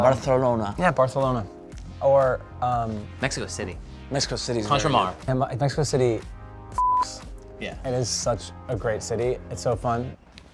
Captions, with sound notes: Barcelona. - Yeah, Barcelona. Or, um- - Mexico City. - Mexico City's very- - Contramar. - Mexico City (beep). - Yeah. - It is such a great city, it's so fun.